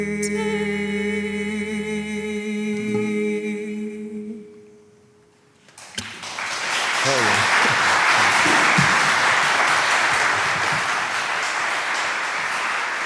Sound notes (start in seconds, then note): 5.7 applause